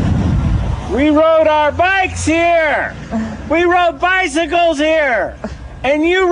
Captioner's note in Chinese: 大喊